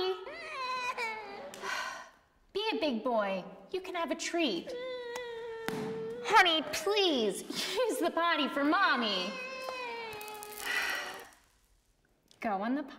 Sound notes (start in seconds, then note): 0.0 baby cries; 1.5 sighs; 4.6 baby cries again; 10.5 sighs